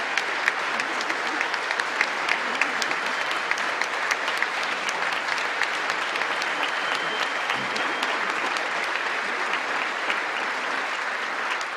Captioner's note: cheering and Applause